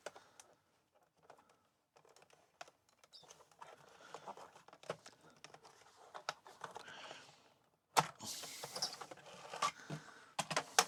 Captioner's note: silence